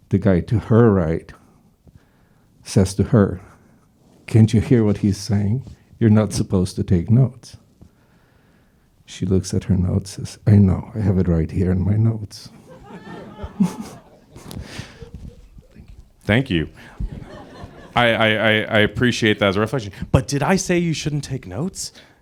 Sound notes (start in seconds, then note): 12.5 crowd laughs